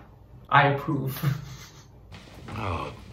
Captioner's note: chuckles